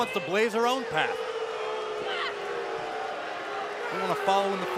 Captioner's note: crowd cheering